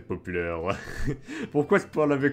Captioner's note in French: Rires